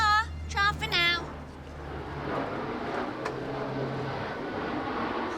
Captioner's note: plane engine roaring